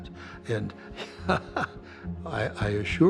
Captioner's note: laughs